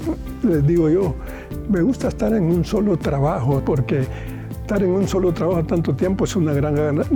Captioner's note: continues speaking in foreign language